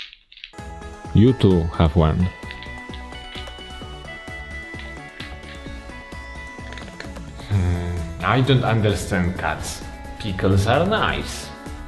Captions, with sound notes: You too have one. (cat crunching on food) Hmm, I don't understand cats, pickles are nice.